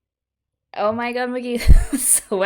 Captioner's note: laughs